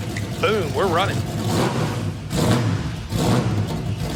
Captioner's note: engine revving